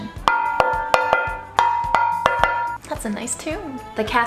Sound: rhythmic banging

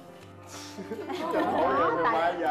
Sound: giggle

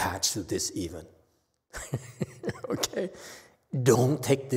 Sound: laughs

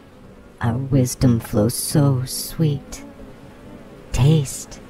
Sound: the Buzzing voices, female and male

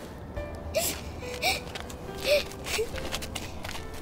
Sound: little girl crying

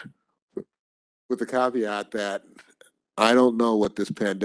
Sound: chuckles

